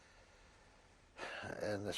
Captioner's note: sighs